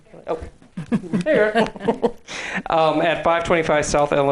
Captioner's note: laughing; laughs